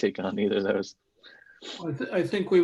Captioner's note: laughs